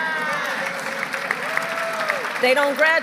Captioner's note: applause